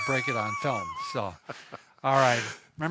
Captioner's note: chuckles